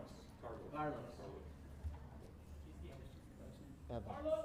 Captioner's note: faintly speaking